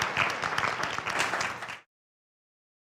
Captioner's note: applause